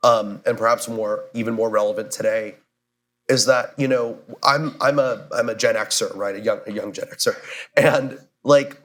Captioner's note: laughs